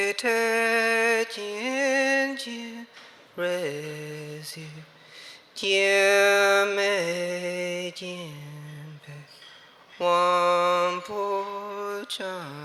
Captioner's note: chanting